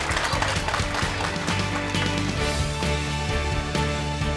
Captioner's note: applause